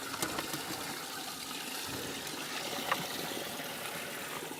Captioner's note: water running